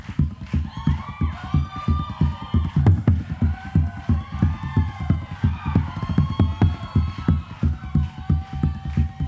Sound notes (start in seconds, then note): 0.6 drumming; 1.5 audience cheering